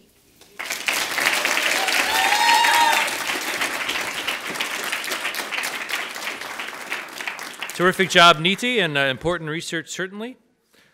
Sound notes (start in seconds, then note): 0.5 audience applauds and cheers